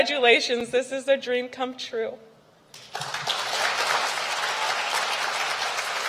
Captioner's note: applause